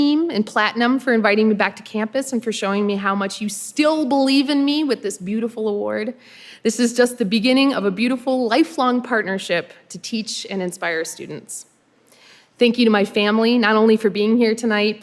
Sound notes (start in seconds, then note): none